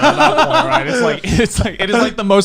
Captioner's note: laughing